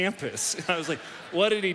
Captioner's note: audience laughs